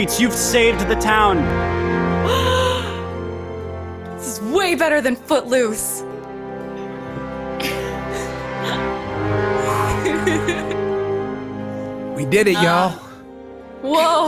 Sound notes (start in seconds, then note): 7.6 dramatic instrumental music; 7.6 laughs